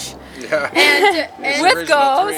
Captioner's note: laughs